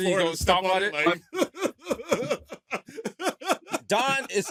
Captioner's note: laughter